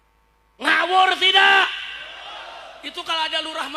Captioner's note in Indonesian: berteriak